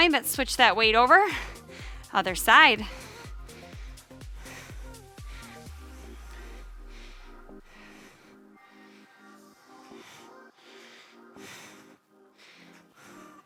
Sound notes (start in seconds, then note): 4.4 panting; 4.4 upbeat music